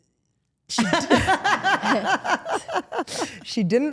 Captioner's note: Stephanie laughing